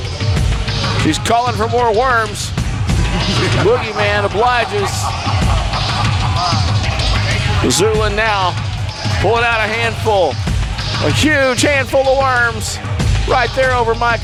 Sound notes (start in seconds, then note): 5.2 man laughing manically; 6.6 lively tribal music